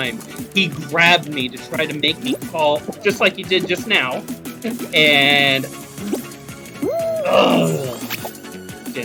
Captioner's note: groan